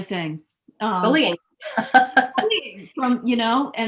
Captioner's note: chuckles